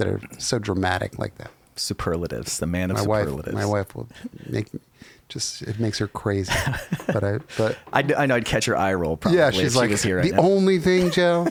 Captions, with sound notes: are so dramatic like that. - Superlatives, the man of superlatives. - My wife will make, just, it makes her crazy. (laughs) - I know I'd catch her eye roll probably if she was here right now. - Yeah, she's like, "The only thing, Joe."